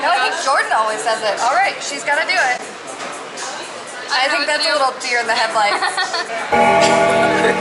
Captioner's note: laughter